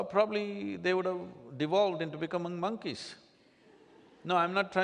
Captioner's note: few laugh